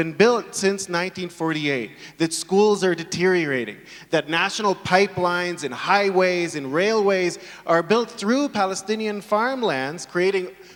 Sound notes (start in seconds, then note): none